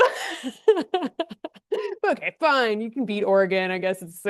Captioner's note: laughs